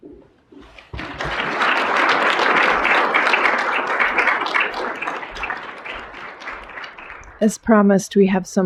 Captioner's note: applause